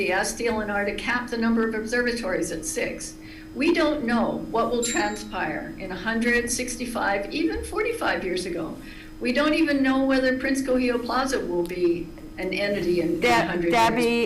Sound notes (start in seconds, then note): 4.8 bell dings